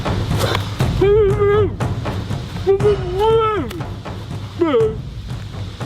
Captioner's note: both whining and grunting